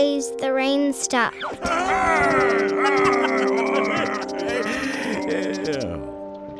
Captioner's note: playfully cheering